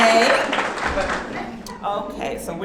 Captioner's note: audience clapping